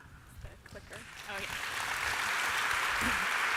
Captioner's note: applause